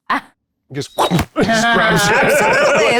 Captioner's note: imitates whoosh